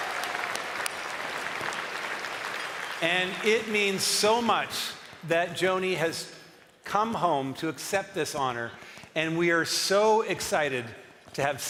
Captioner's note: cheering and applause